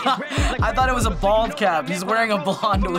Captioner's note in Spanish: risas